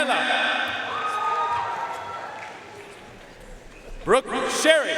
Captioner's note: audience cheering and applauding